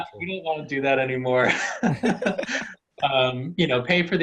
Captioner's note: laughing